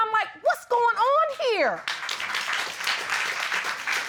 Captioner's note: applause